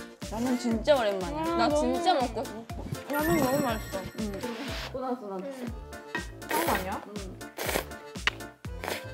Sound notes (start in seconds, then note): 7.4 slurp; 7.4 slurp slurp